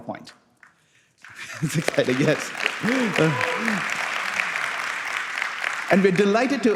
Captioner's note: applause